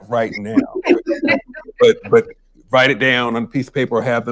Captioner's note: laughter